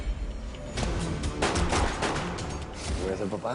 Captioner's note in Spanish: Disparos